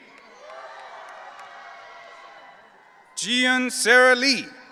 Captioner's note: audience cheering